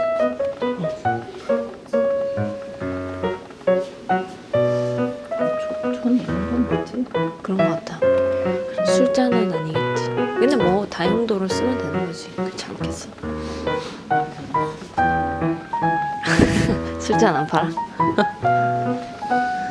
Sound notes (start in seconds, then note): 16.2 haha